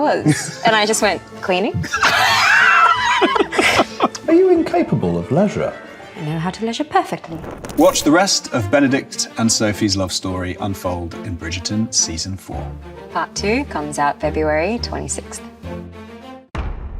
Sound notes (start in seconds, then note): 1.8 both laugh; 1.8 Luke laughs; 7.3 audio whooshes; 14.8 upbeat music plays